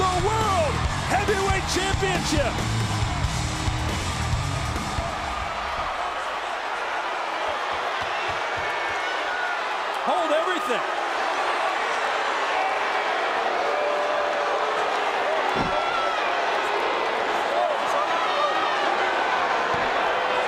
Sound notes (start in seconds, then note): 4.8 crowd cheers; 13.7 crowd boos